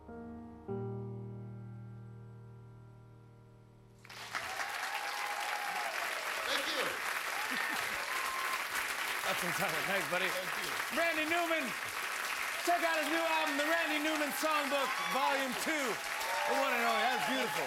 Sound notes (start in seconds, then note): 6.1 cheers and applause